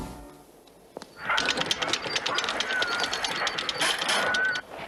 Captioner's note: rapid clicking, grinding